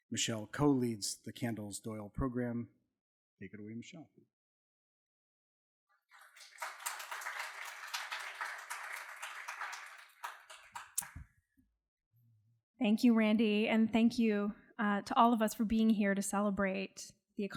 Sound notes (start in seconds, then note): 6.1 audience clapping